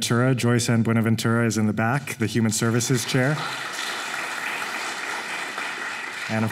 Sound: applause

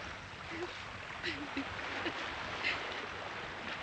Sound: woman sobbing

